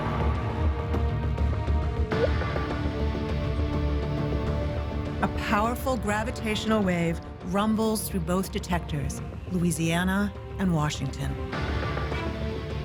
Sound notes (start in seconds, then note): 1.9 faint chirp